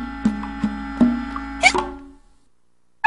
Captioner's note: Osaka hiccups